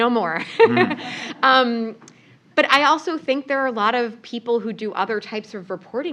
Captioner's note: laugh